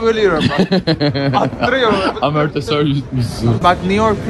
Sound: laughs

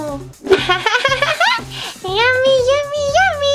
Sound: Jack-Jack giggles

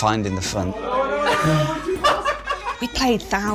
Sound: laughter

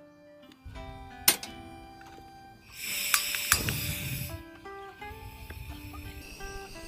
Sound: laughs

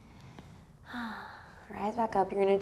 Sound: sighs gently

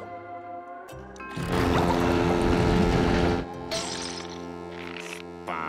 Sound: foghorn sounding

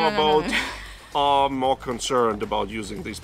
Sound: laughs

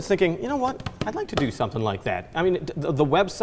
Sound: banging on desk

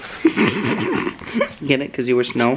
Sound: laughing

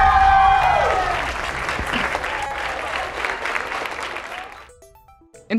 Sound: audience cheering; audience applauding

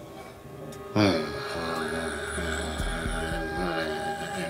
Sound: groaning

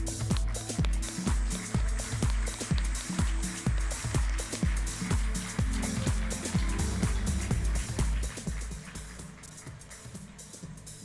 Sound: applause

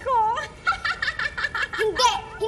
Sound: witch cackles

